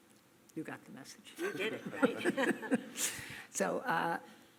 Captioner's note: laughs